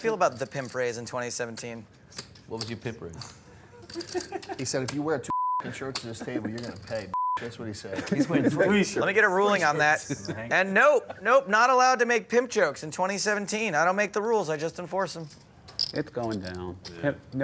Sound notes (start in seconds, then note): 5.3 beep; 7.1 beep